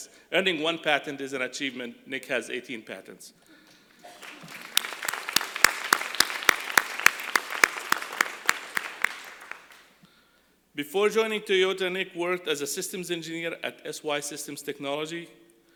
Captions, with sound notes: earning one patent is an achievement, Nick has 18 patents. [ Applause ] Before joining Toyota, Nick worked as a systems engineer at SY Systems Technology,